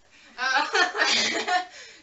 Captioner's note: laughs